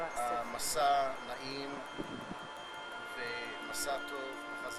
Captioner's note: speaking hebrew